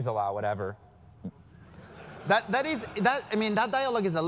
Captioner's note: laugh